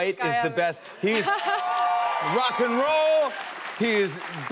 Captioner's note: cheers and applause